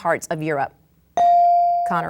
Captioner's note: bell dings